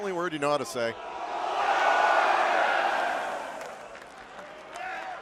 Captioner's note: cheers & applause